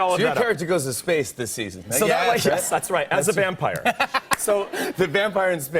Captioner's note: laughter